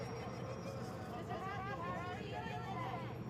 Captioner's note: muffled shouting